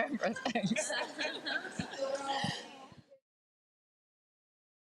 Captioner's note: laughs with crowd